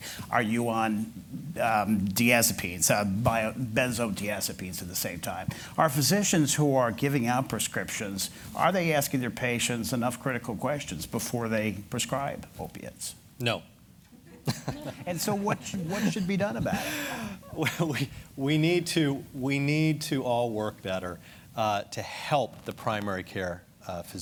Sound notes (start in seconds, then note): 14.2 laughter